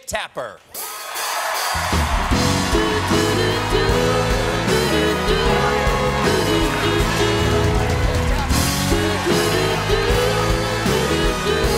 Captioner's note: cheers and applause